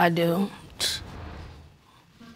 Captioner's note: scoffs